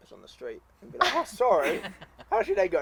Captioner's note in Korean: 웃음